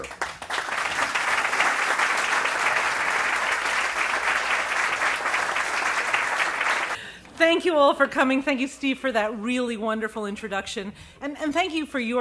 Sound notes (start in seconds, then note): 1.8 applause